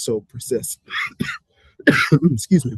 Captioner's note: coughing